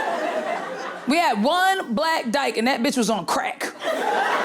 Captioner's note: audience laughing